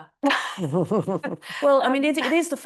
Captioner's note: laughing